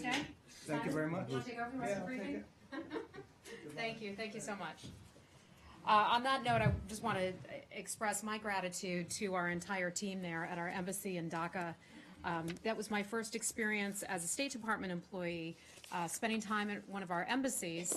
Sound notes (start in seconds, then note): 2.7 laughter